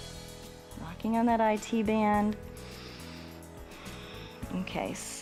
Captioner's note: inhales and exhales